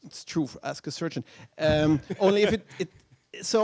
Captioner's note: laughter